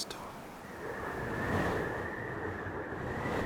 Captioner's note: wind blowing